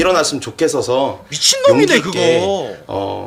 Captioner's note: annoyed